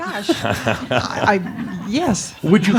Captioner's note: chuckles